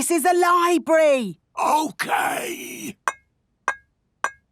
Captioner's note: whispering